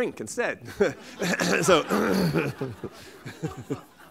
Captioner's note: laughter